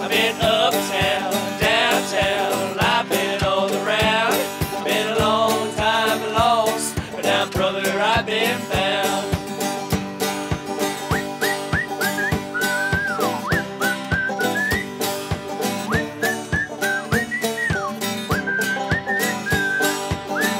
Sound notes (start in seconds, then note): 9.8 upbeat music; 11.0 man whistling